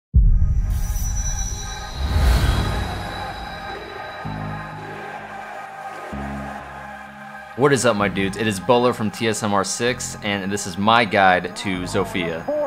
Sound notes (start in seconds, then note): 0.0 synth music; 0.7 metallic ringing; 1.0 crowd